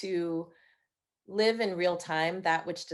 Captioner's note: none